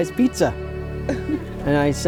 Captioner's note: laughs